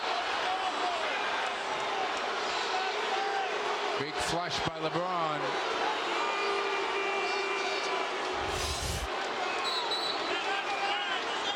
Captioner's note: whistle